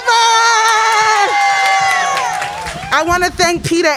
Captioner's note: crowd cheering